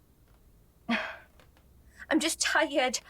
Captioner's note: sighs